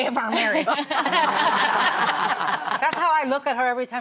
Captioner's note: laughter